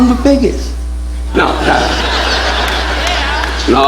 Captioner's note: audience laughing